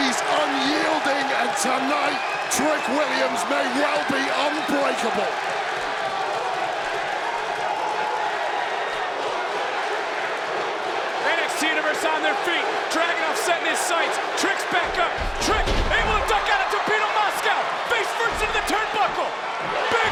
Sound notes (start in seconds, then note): 6.0 crowd chants "Whoop that Trick"